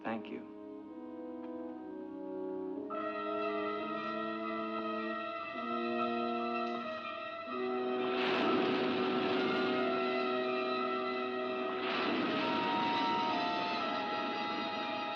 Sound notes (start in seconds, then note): 2.9 suspenseful music; 8.2 waves crashing; 14.3 suspenseful music